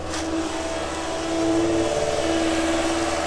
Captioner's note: machine noise